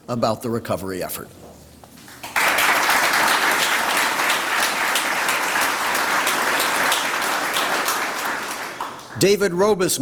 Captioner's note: applause